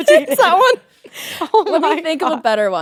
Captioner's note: both laughing